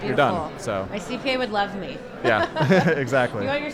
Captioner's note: both laughing